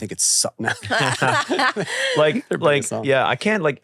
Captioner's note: all laugh